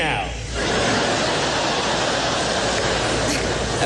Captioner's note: laughter